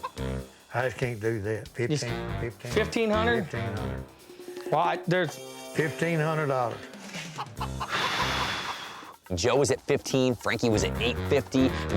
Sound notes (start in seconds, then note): 6.9 exhales